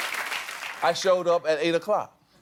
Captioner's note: cheers and applause